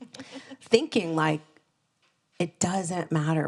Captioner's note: laughing